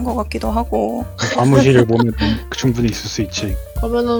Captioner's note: laugh